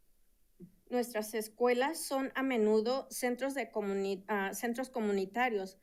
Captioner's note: speaking in Spanish